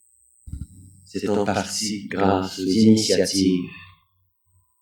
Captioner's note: french